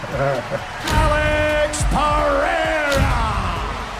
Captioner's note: Spice laughing; camera flashing; punch and kick sounds